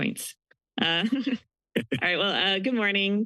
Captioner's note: chuckles